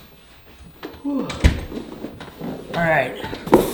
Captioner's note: door closes